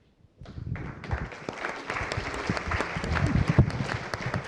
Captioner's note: applause